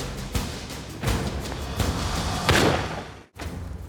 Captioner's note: gunshot